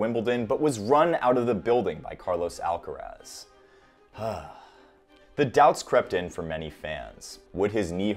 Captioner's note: sigh